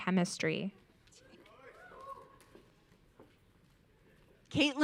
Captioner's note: audience cheering